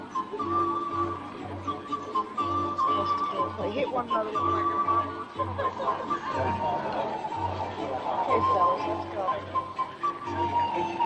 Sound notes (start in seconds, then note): 4.6 speaking faintly; 5.9 people chattering